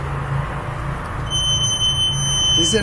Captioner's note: energy detector device beeping and whistling